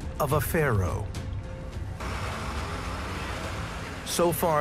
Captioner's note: gentle suspenseful music; tractor engine roars